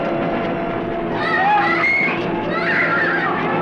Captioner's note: screaming